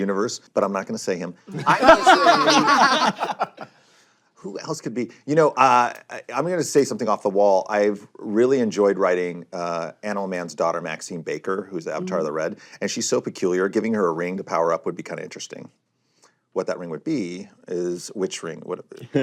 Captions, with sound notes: but I'm not gonna say him. (LAUGHTER) Who else could be? You know, I'm going to say something off the wall. I've really enjoyed writing Animal Man's daughter, Maxine Baker, who's the Avatar of The Red, and she's so peculiar, giving her a ring to power up would be kind of interesting. What that ring would be is-- Which ring would it be?